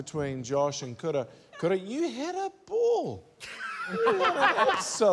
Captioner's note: laughs